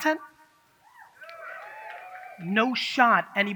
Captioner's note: audience cheers